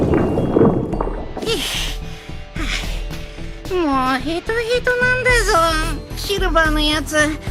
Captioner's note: pant, pant